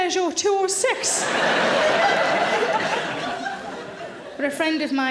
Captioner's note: audience laughing